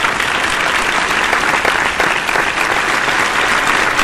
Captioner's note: enlightened applause!